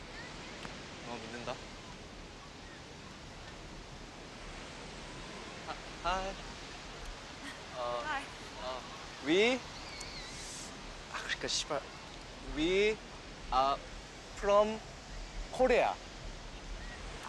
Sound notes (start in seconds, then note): 7.4 chuckles; 10.6 speaks in korean